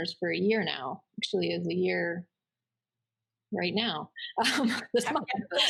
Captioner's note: giggles